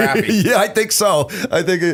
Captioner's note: laughter